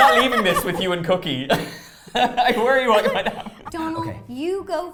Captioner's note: laughs